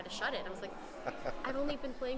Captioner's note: laughing